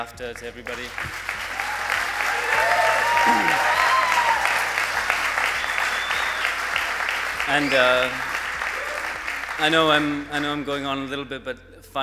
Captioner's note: applause